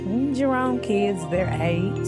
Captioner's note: none